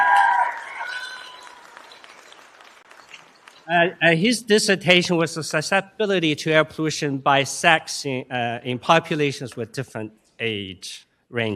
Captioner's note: applause